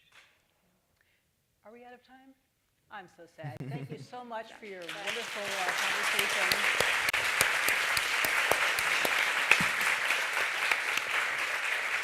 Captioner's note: appaluse